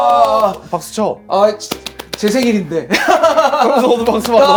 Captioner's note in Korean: 웃음